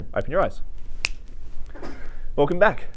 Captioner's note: fingers snapping